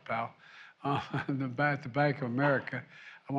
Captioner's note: laughs